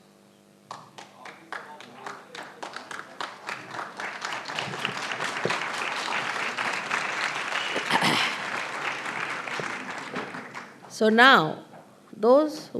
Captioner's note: applause